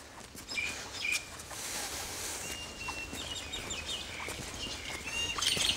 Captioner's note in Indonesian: suara kicauan burung